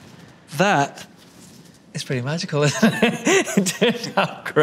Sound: laughs

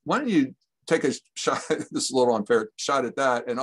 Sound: chuckles

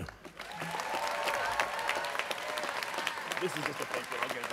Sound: students cheering

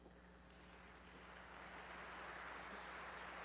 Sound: applause

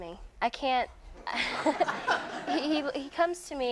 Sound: audience laughing

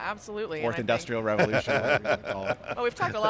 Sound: laughs

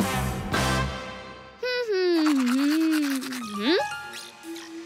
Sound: humming

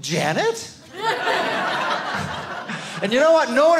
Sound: audience laughing

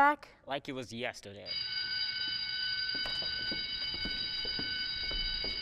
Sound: bell rings

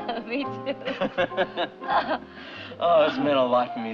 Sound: laughs

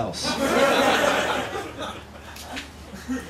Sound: laughter

